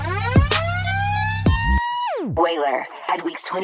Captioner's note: sirens